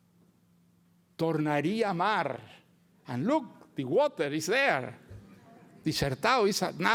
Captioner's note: speaks Portuguese